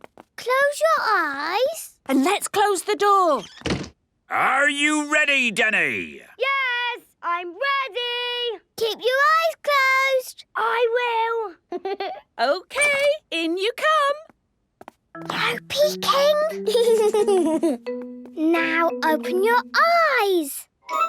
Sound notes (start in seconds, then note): 11.3 Danny laughing; 15.0 whispering; 16.5 Danny giggling